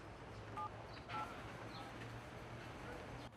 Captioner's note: phone bleeps